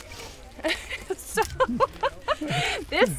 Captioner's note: laughter